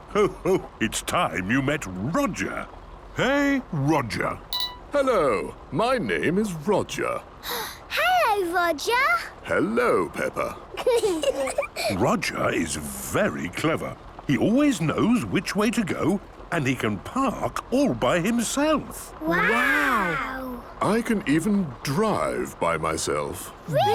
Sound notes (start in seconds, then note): 7.7 gasps; 10.7 children giggling